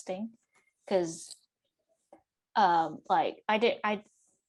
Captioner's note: PA stutters